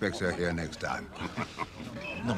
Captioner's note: tertawa